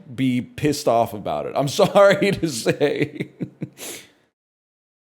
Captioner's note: laughs